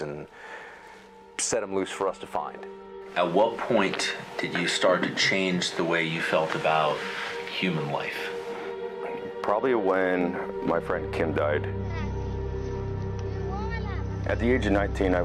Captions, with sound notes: and set 'em loose for us to find. - At what point did you start to change the way you felt about human life? (dark music) - Probably when my friend Kim died. (onlooker speaks in foreign language) - "At the age of 19,